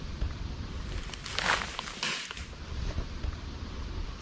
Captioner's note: branches cracking sound